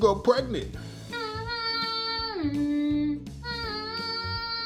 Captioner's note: humming theme